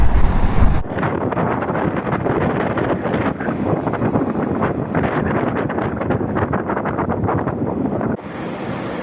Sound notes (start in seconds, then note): 6.0 wind and waves crashing